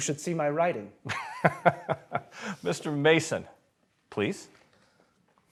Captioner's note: laughs